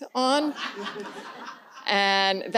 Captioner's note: audience laughs